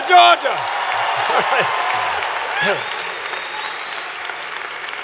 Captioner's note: applause